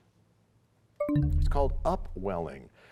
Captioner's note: bell chimes, time expires